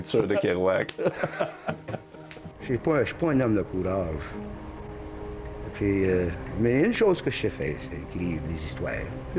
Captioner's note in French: rires